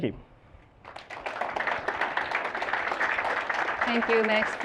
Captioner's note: applause